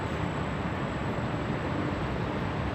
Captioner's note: none